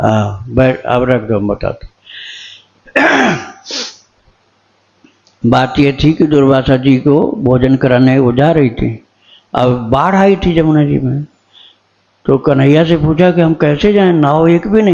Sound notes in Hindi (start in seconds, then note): 2.9 गला साफ़ करने की आवाज़; 3.2 नाक से की जाने वाली आवाज़